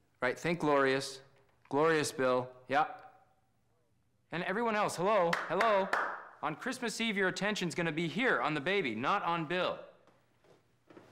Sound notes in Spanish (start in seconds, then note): 5.2 aplaude